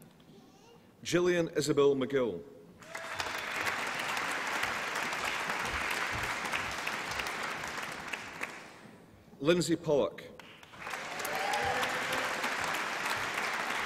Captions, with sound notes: Jillian Isobel McGill. (APPLAUSE AND CHEERING) Lynsey Pollock. (APPLAUSE AND CHEERING)